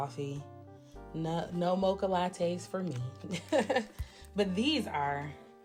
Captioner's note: laughs